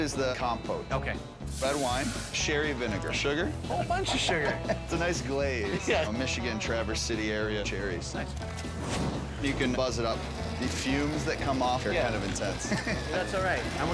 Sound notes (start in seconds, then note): 3.7 laughs; 9.0 logo whooshes